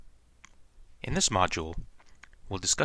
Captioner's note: voiceover